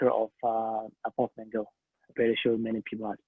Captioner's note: speaking a foreign language